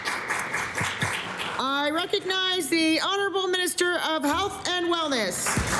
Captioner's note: applause